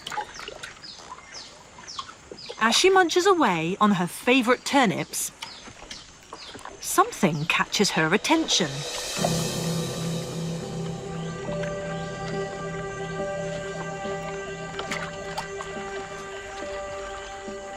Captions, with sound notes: As she munches away on her favorite turnips, something catches her attention. (intense music) (water rustling)